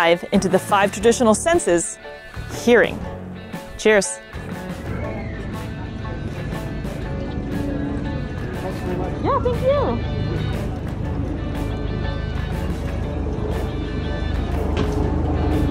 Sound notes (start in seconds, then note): 4.5 background chatter; 4.5 background music; 10.3 background music